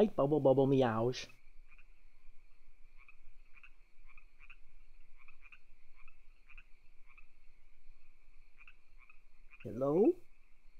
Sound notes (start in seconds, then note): 3.8 crickets